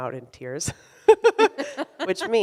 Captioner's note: laughs